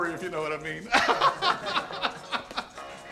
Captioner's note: laughing